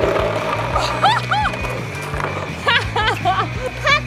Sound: laughing

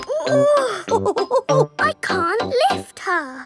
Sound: chuckles; straining

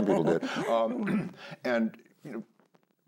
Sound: clears throat

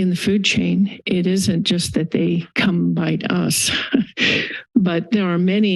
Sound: laughter

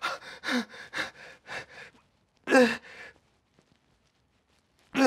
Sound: pants and groans

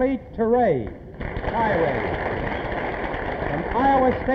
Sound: applause

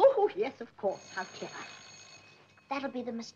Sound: doorbell

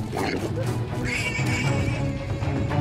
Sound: razorback grunts, squeals

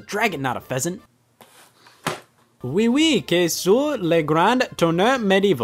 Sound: speaking in foreign language

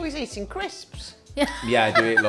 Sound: laughs

